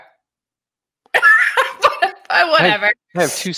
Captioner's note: laughing